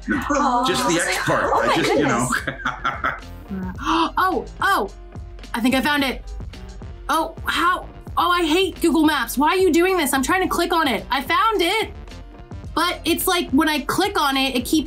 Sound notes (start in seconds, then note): 1.5 laughs; 3.4 gasps